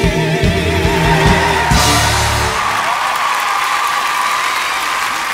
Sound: audience applauds and cheers

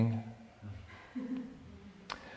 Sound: quiet laughter

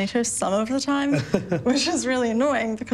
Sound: both laugh

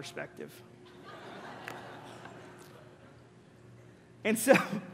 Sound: congregation laughing

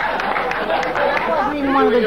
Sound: audience laughing

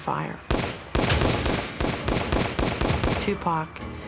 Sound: gunshots

